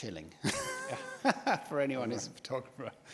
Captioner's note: laughs